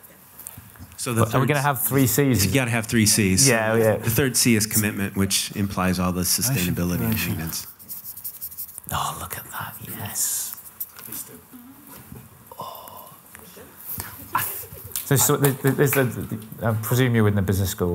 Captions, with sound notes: so we're going to have three C's you're going to have three C's yeah yeah the third C is commitment which implies all the sustainability machines oh look at that yes [content sigh] [claps] I presume you're in the business school?